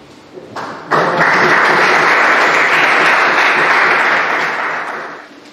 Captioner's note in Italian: Applausi